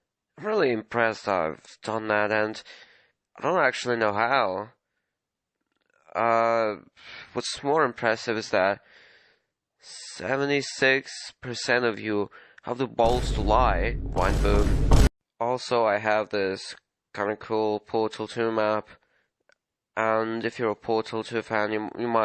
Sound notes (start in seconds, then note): 13.0 vineboom